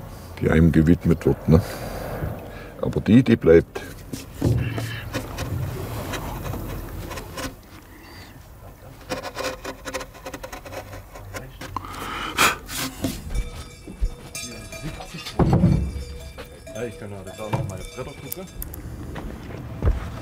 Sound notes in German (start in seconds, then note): 13.2 Kuhglocken; 14.8 Klackern